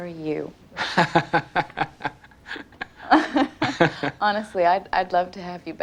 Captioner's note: laughing